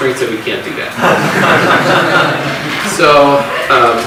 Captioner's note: audience laughs